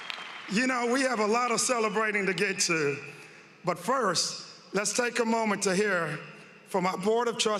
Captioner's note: cheering and applause